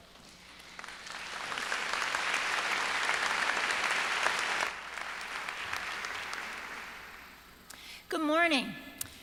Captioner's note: applause